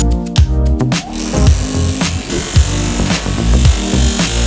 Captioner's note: polisher whirring